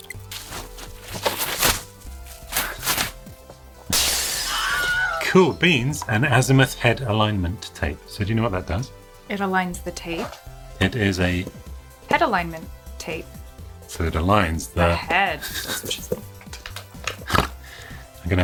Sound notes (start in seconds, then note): 0.2 paper whooshing; 3.9 glass breaking; 4.2 screams